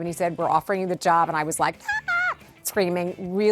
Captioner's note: screaming